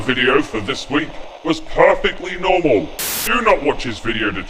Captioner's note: TV static; TV static